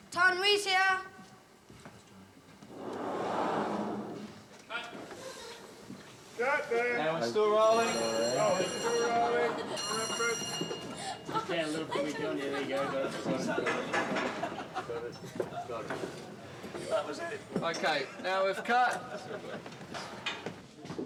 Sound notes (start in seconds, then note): 7.6 bell ringing; 15.8 laughing